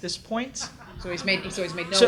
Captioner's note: audience laughs